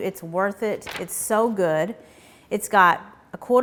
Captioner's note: paper rustling